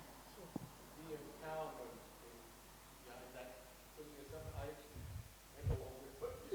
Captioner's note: speaking faintly